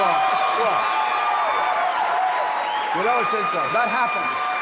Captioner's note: applause